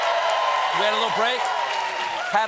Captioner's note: cheers and applause